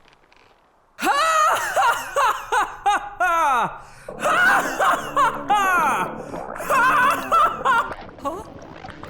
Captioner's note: Deku laughs like All-Might